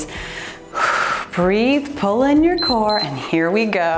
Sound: timer beeps

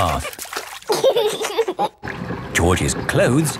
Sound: giggling

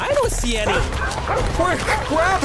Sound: wolves barking

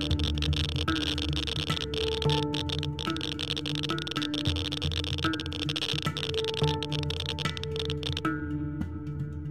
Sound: high-pitched clicking

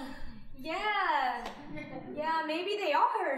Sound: audience chuckling

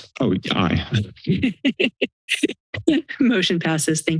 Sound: laughter

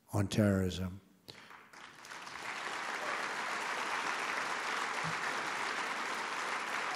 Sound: applause

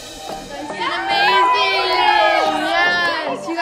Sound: group cheers

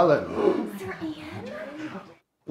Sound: class gasping

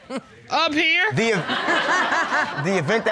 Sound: laughs

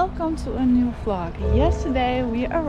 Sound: bell ringing

